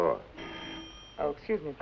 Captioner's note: phone rings